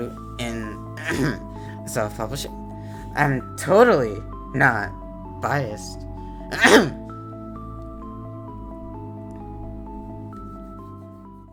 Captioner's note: ahem; ahem